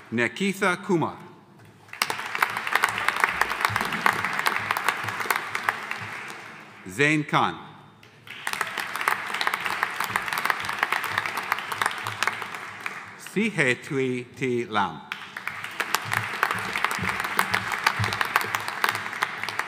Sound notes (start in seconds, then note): 1.7 audience applauding; 15.1 audience applauding